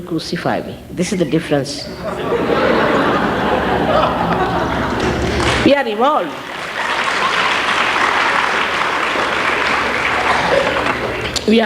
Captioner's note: laughter; applause